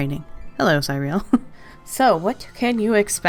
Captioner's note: laughs